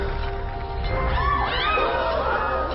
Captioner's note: women screaming